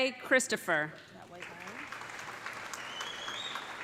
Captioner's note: applause